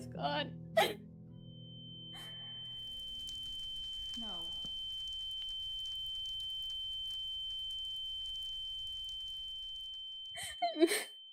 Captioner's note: voice echoes; ringing; DAMIEN sobs